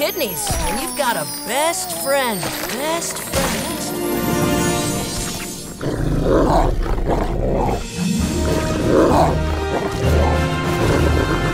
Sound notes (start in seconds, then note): 2.3 "best friend" echoing; 5.2 growling